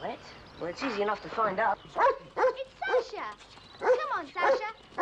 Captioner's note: barking